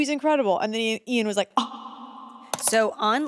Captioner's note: gasps